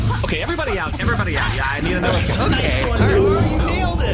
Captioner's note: Two throws another smoke bomb and Bargie’s fire alarm blares